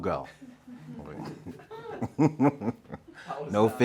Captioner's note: laughing